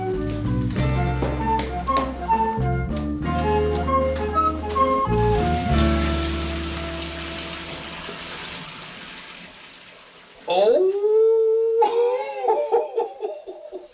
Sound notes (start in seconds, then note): 0.0 light music; 4.8 water splashing; 10.6 laughs